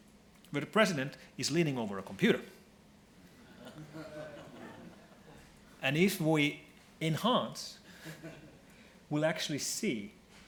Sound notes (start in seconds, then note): 3.5 laughing